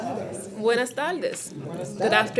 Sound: board responds in spanish; student greeting in Spanish; board responds in spanish; student greeting in Spanish

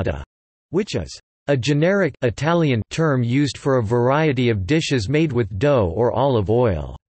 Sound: Italian

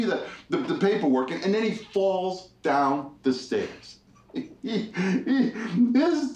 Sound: laughs

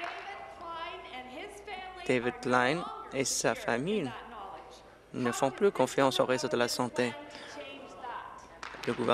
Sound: applause

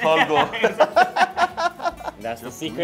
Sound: laughs

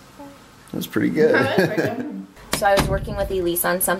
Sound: laughing

